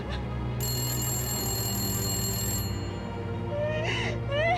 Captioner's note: telephone ringing